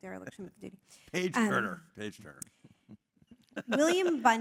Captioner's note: laugh